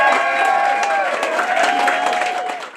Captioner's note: audience applauding; audience cheering